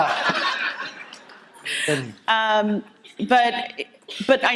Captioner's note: audience laughter